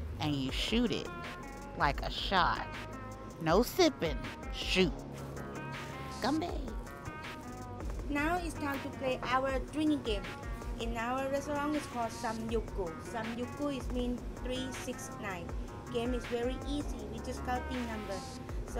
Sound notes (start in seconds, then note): 12.7 speaks Korean